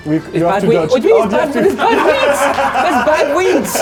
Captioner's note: laughing